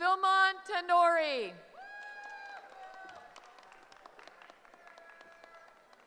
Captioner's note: cheering